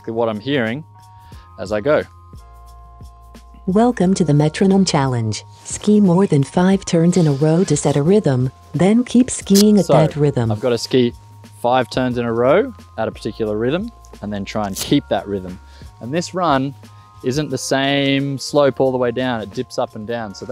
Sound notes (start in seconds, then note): 2.4 Carv voice